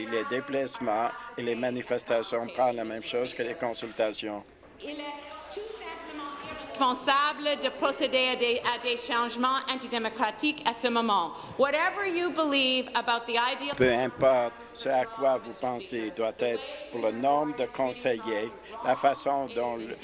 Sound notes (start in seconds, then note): 8.4 speaking in french